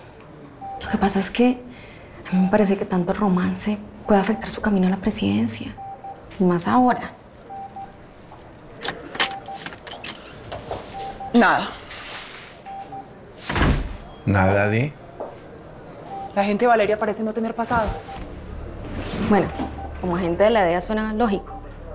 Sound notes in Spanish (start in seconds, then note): 8.7 Sonido al abrir la puerta; 13.4 Sonido al cerrar la puerta